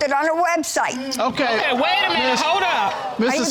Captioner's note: audience exclaiming